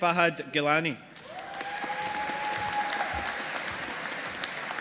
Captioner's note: audience applauding